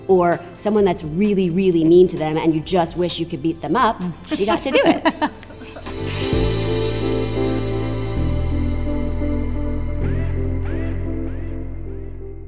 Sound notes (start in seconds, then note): 4.2 laugh; 5.8 gentle music